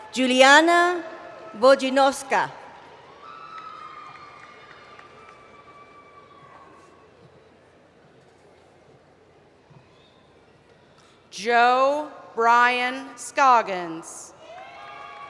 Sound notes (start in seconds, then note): 2.4 cheering